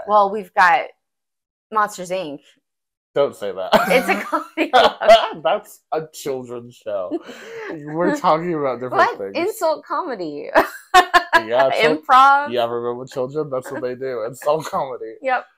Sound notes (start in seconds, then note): 10.9 laugh